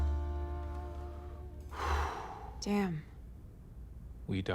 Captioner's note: breaths deeply